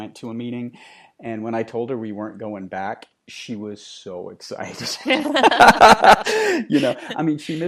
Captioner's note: laughing